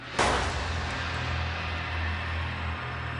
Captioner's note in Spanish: Disparo